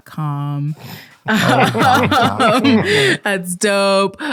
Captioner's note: all laughing